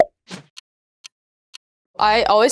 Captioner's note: air whooshes